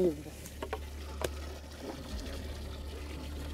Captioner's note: water draining